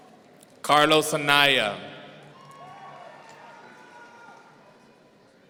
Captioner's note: audience cheering